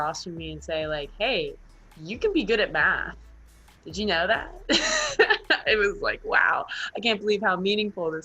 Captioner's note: laughs